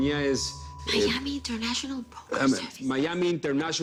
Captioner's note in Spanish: Susurra